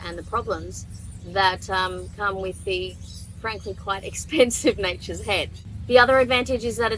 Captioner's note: laughing